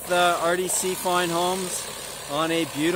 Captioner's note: machine whirring